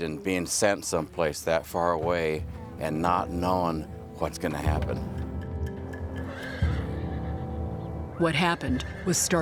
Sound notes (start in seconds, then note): 6.2 horse neighs